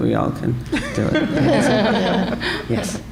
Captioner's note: laughter